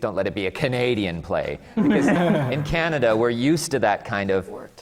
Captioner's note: laughter from the panel